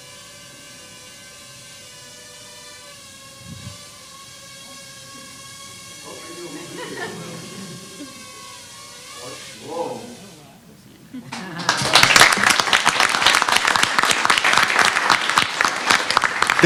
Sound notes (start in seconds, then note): 6.6 indistinct chatter; 11.4 applause